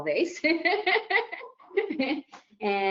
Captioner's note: laughs